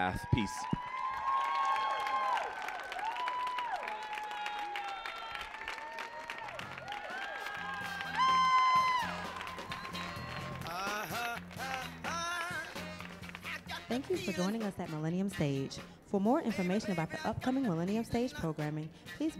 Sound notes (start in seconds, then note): 1.5 audience cheering and applauding; 6.9 funky music